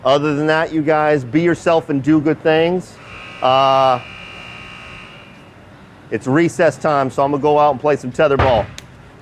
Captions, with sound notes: Other than that, you guys, be yourself and do good things. (buzzer sounding) It's recess time, so I'm gonna go out and play some tetherball.